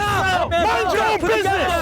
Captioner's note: shouting